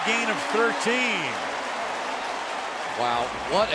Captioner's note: crowd cheering